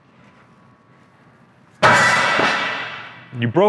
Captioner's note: lid banging